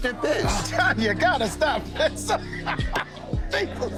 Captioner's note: laughs